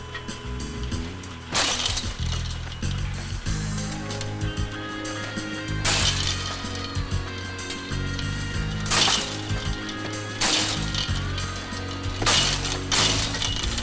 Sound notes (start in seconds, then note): 1.5 chain rattles